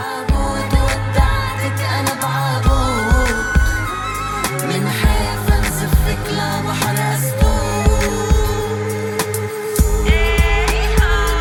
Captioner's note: chanting